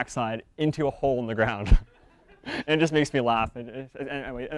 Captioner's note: audience members laugh